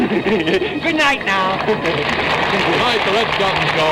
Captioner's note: applause